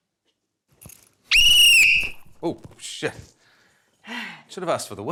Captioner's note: blows whistle; sighs